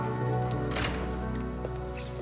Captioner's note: footstep